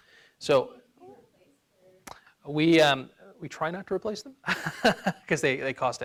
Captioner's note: laughs